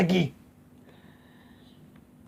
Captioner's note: whisper